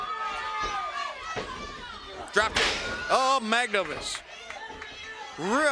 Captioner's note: crowd chatter